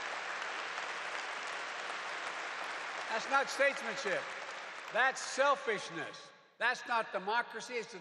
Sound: applause

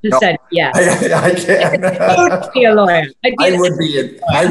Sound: laughing

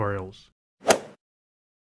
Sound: swoosh

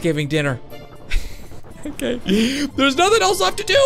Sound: laughs

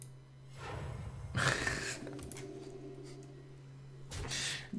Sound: laughs

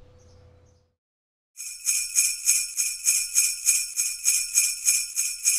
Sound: bells ringing

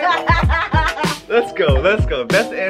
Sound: laughs

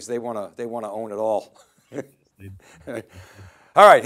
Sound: both chuckling

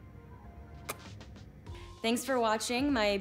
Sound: blowing kiss

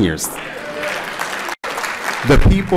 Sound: applause

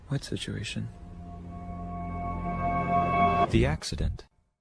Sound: eerie noise intensifies

